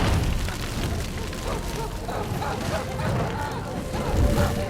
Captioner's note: screaming